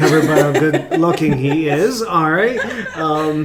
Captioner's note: laughs